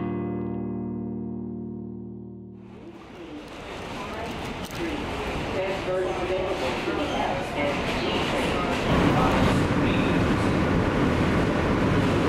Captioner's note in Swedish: ljud från tunnelbanan i New York